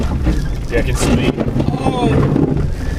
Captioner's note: loud scrapping